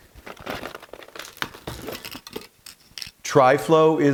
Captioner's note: metal rattling